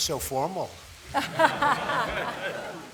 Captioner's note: laughter